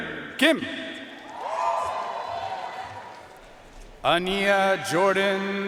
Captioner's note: audience cheering and applauding